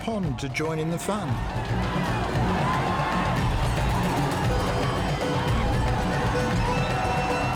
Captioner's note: drums continue beating; people shouting